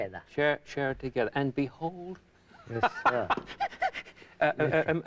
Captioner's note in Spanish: Risas